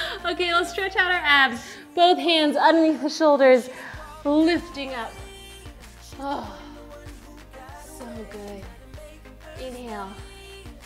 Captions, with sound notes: Okay, I'll stretch out our abs, both hands underneath the shoulders, lifting up. (breathing in) so good, inhale, exhale.